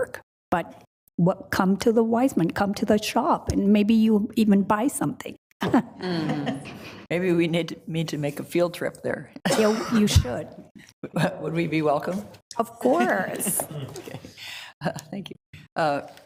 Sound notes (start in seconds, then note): 5.9 laughs; 13.3 group laughs